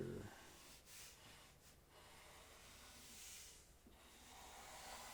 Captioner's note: pencil scratching